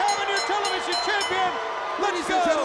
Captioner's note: bell ringing; crowd chatter